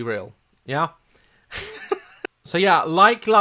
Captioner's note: chuckles